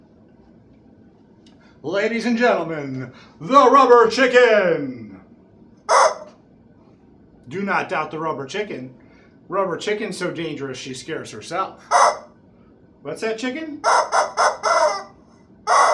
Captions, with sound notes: ladies and gentlemen, the rubber chicken. (squawk) Do not doubt the rubber chicken, rubber Chicken so dangerous, she scares herself. (squawk) What's that, Chicken? (squawks)